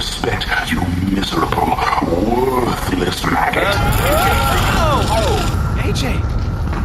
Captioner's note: screams and the portal closes